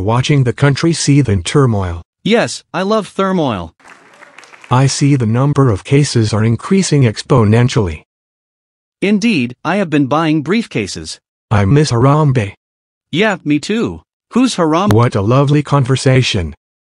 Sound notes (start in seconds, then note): 3.8 Audience claps, stunned at Orange's intelligence